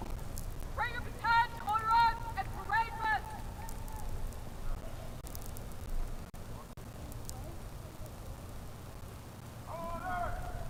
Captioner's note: shouted commands